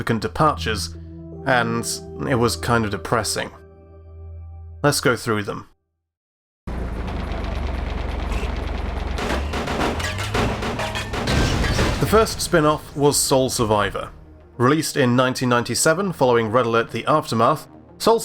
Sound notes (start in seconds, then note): 9.1 gunfire; 10.9 explosion